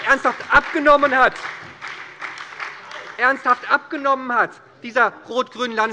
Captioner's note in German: Beifall bei der SPD